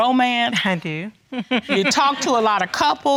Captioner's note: chuckles